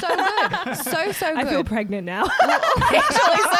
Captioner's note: laughs